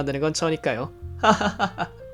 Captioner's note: contrived laughter